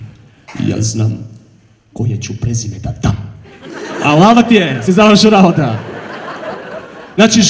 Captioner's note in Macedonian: смеа